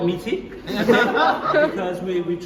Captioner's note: laughter